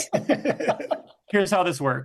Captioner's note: group laughs